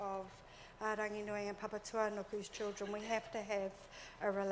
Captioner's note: speaks in foreign language